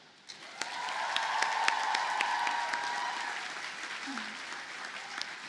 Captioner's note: audience cheers and applauds